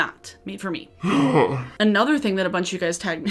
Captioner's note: deep sigh